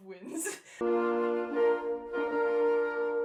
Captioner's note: laughter; wedding music